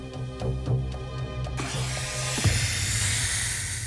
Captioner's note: hissing